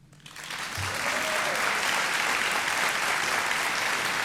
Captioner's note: audience applauding